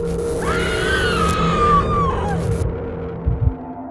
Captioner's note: screaming